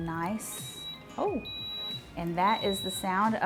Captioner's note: waffle iron beeping